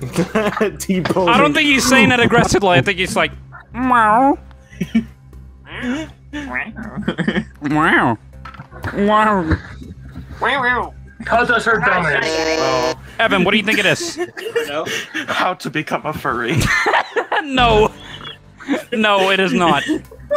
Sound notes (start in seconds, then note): 1.2 laughing; 4.9 chuckles; 6.7 chuckles; 12.2 buzzes illegally; 16.5 laughs